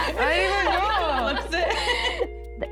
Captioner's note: laughter